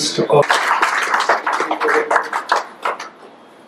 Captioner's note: applause